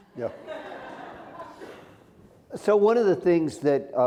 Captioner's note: laughter